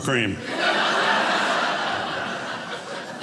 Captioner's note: audience laughing